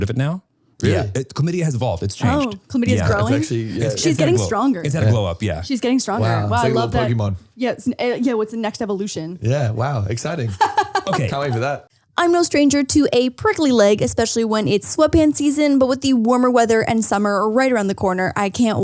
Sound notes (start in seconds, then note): 10.4 laughing